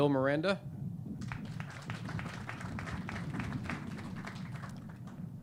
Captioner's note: clapping